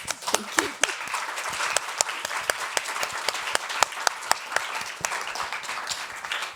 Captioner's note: all clapping